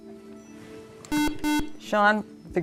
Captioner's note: buzzer